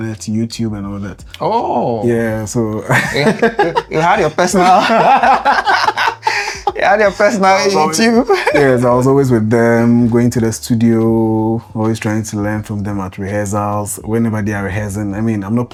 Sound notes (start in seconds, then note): 5.7 laughter